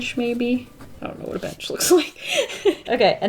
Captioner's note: laughs